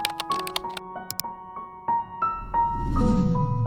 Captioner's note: mouse click